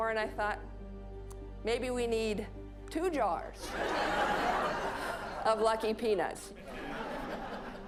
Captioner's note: audience laughing